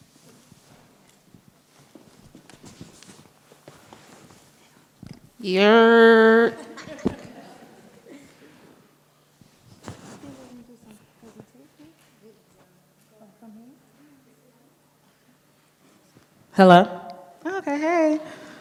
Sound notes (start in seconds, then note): 6.6 scattered laughter; 9.7 light and quiet chatter